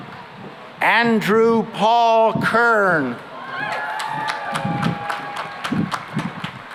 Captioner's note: cheering and applause